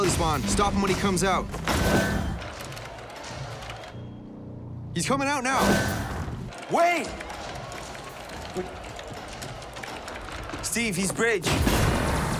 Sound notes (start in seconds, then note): 1.5 portal chiming; 3.2 ominous orchestral music; 7.4 keyboard clicking